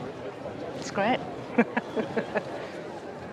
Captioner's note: laughs